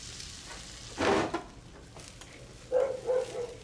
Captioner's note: barking